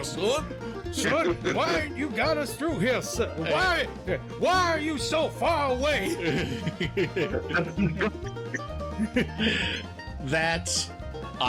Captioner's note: laughter